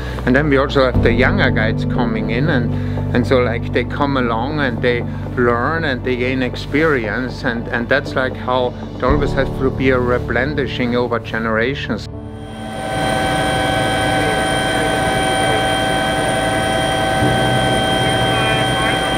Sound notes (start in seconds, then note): 12.4 engine whirring; 15.2 helicopter team chattering